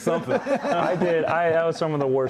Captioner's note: laughter